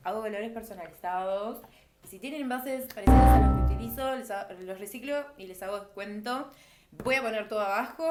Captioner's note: error sound